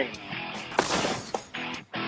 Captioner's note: smash